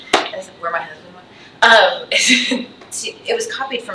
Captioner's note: chuckles